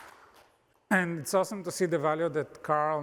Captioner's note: applause